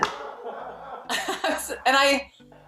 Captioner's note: laughter